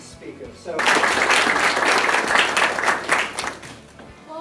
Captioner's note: applause